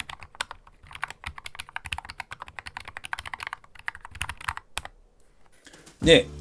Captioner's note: keystroke sound